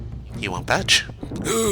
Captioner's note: They speak in Glep Wingon